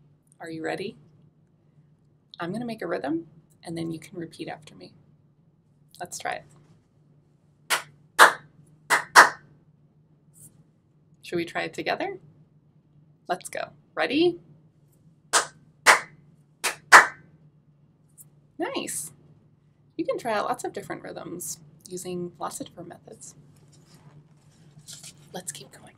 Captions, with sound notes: Are you ready? I'm gonna make a rhythm and then you can repeat after me. Let's try it. [clapping] Should we try it together? Let's go. Ready? [clapping] Nice! You can try out lots of different rhythms using lots of different methods. Let's keep going.